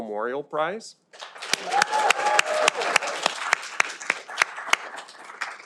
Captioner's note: audience applauding